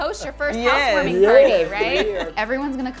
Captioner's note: group laughs